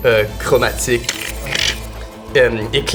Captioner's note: splintering glass